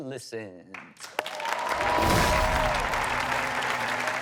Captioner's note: cheering